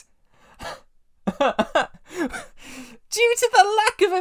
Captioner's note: involuntary, sputtering laughs